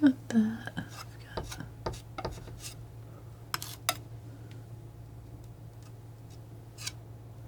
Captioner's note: tapping